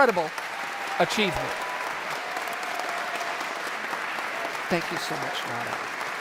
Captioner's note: audience applauds